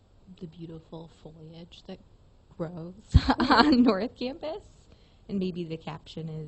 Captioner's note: laughs